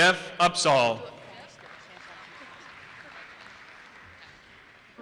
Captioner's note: audience applauses